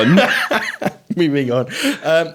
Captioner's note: both laughing